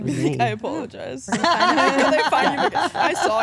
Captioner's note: all laugh